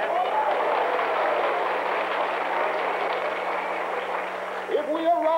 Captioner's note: applause